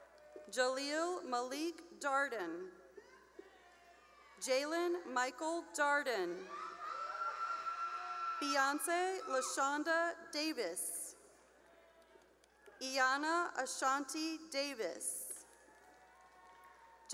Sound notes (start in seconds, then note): 0.0 cheering; 3.0 cheering; 6.3 cheering; 11.5 cheering; 15.5 cheering